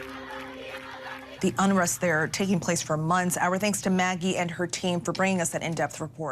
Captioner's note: crowd chanting